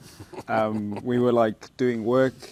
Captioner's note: laughing